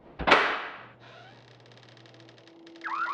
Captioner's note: slam; door creaking; alarm ringing